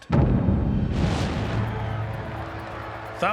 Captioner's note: crowd shouting